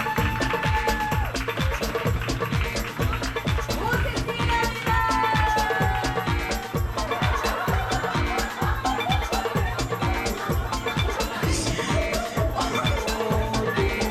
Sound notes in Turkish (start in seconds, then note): 0.6 Gülüşmeler